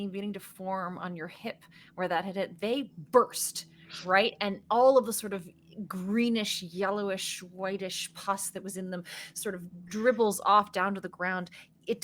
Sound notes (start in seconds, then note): none